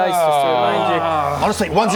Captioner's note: grumble grumble